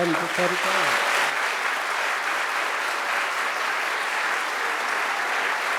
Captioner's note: audience applauds